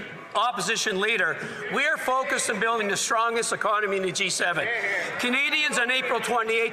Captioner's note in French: voix de l'interprète